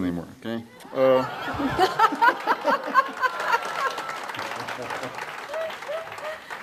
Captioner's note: audience laughs and claps; laughs